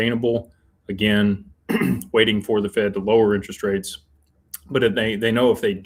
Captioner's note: clears throat